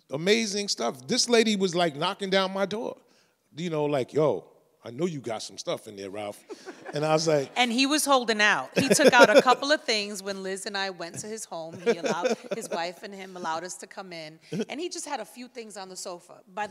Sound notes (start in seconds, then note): 6.5 chuckles; 8.7 laughs; 11.6 laughs